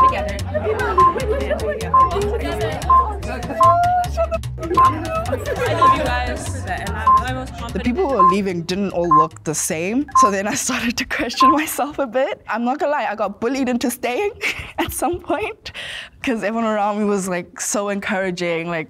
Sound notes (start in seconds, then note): 0.0 timer beeping; 1.8 timer beeping